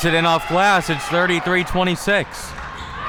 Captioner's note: spectators applauding